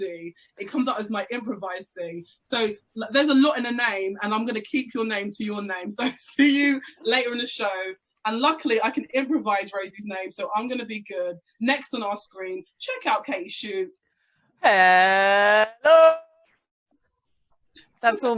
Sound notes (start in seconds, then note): none